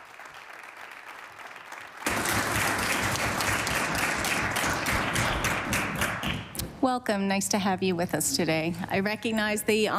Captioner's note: applause